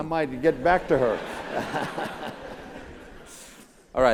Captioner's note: laugh